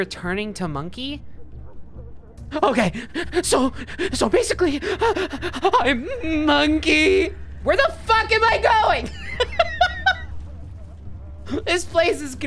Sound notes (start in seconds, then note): 2.5 imitating man’s frenzied voice; 3.7 heavy breathing; 7.6 normal voice, yelling; 8.9 laughing